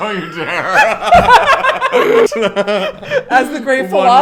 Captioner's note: both laugh